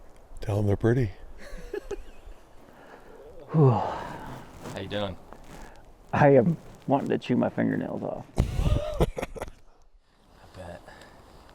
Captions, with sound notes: Tell’em their pretty. (Laughing) Wheww! How you doing? I am wanting to chew my fingernails off. (Laughing) I bet.